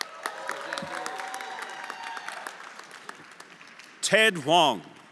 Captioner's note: everyone applauding and cheering